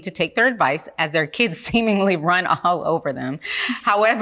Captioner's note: chuckling